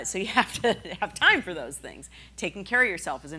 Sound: laughing

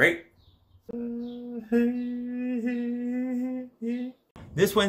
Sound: alien humming

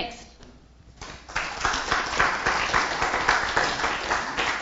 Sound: applause

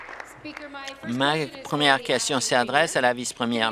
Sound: applause

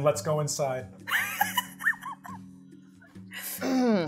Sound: chuckles

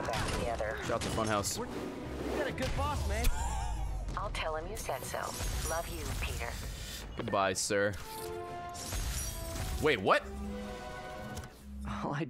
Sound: laughs

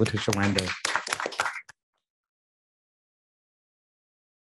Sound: group clapping

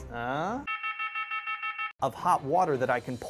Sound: alarm beeping

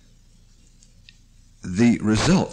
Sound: pause

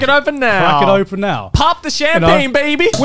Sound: cork pops

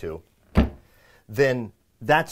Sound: door slamming

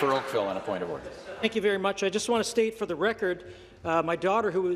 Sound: chuckles; applause

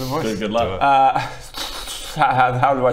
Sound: slobbering noises

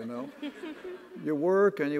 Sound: audience laughs

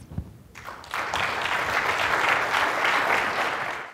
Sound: audience clapping

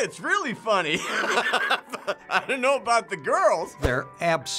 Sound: laughing

